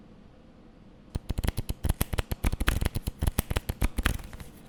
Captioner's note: cards tapping